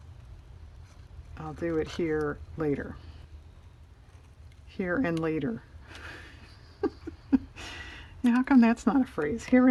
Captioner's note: laughs